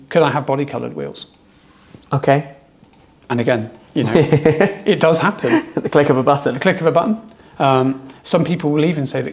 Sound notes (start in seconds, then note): 4.0 laughter